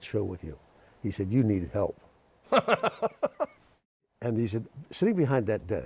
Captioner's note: laughs